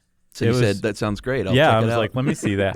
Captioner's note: laughs